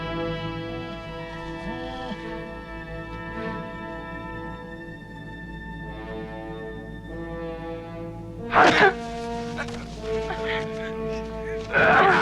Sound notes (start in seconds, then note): 1.1 Beast whines; 8.4 men grunting; 9.5 Pateray groans